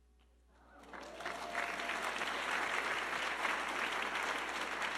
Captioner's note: audience clapping